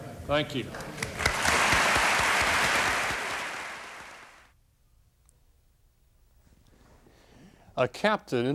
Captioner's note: applause